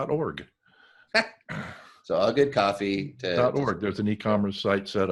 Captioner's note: laughs